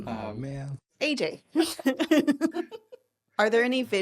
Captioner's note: laughing